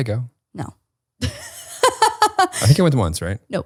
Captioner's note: laughs